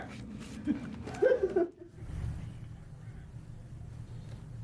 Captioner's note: people laughing